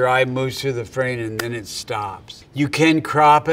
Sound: hands clap

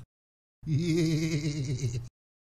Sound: giggle

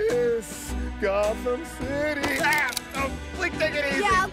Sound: gun cocks

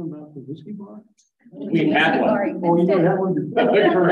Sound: laughs

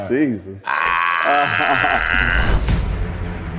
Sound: alarm ringing; intense orchestral music

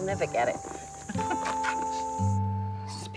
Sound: laughing

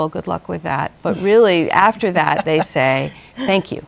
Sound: laughs

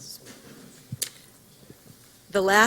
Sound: silence

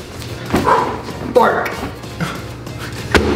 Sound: exhales

